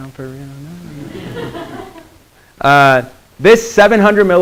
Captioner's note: students laughing